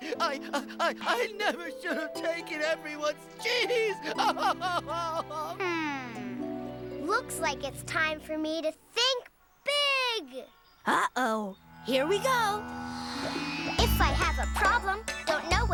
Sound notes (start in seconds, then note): 3.3 sobbing